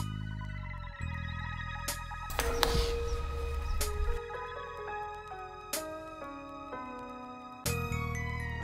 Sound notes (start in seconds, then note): 2.3 warped TV channel flipping